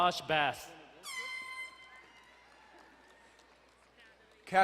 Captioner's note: horn blowing